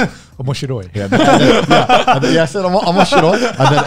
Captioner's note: speaks foreign language